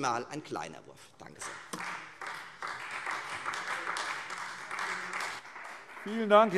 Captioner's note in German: Beifall Freie Demokraten